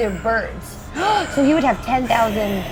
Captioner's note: gasps; creature growls